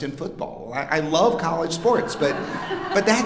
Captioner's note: audience laughing